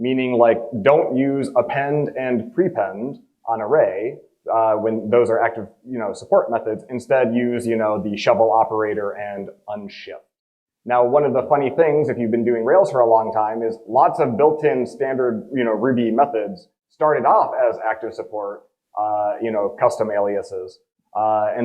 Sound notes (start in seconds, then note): none